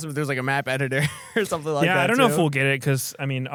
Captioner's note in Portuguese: risos